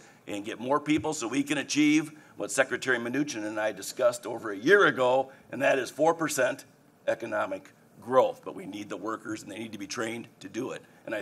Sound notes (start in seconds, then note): none